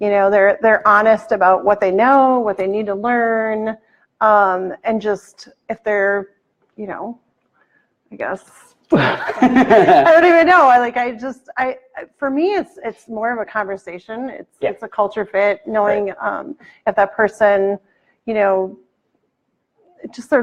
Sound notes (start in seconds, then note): 8.9 laughs